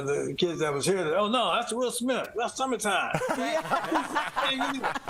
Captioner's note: laughter